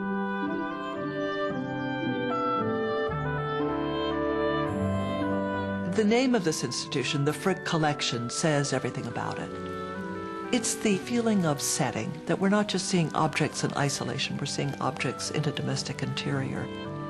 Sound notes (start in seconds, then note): 0.2 gentle music; 6.0 voiceover; 16.9 gentle orchestral music